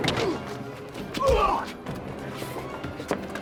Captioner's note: body thuds; Sonny groans; Vargas groans painfully; blow lands; feet shuffling